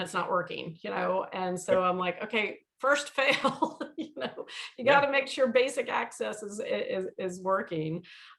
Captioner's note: chuckles